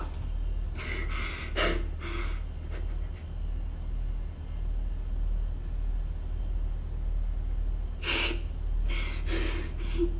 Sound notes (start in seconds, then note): 0.7 shaky breaths